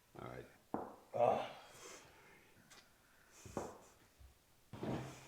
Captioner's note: Clayton groans